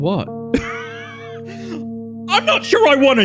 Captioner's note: laughs